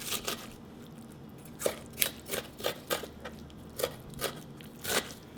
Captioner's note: slicing